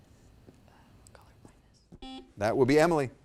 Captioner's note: buzzer dings